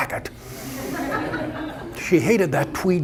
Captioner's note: audience laughter